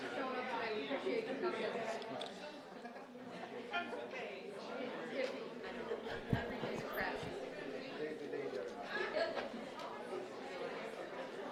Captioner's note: applause